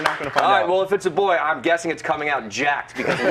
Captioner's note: applause